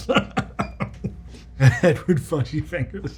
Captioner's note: laughing